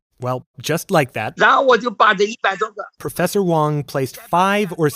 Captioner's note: speaking Mandarin